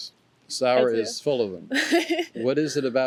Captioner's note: laughs